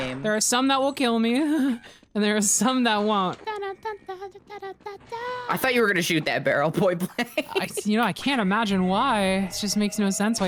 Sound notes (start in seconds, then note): 3.4 hums; 6.8 laughs